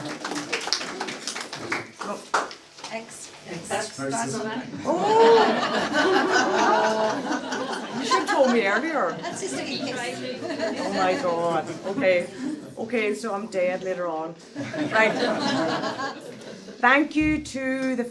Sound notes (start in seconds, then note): 0.0 applause; 6.1 laughter; 14.5 laughter